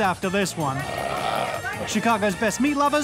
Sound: loud burp

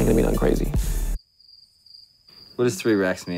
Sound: crickets

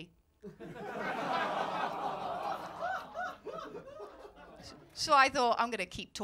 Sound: laughter

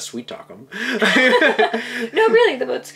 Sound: laughing

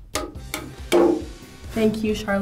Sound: nail thuds; hammer slamming

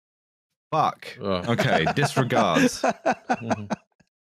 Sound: laughs

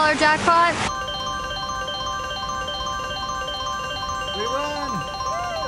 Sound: machine chiming

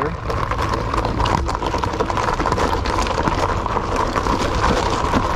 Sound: bike's motor thrumming

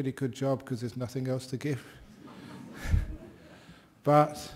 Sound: laughter

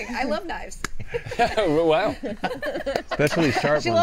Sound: laughing; laughs

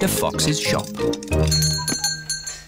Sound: bell ringing

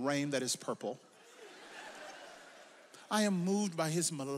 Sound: audience laughs

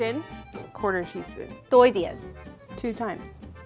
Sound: speaking in mandarin

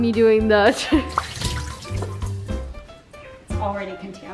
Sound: laughs; water splashing

